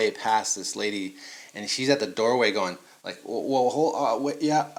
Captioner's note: stammers